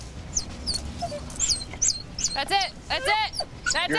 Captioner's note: dog whimpering